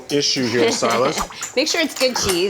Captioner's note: laughing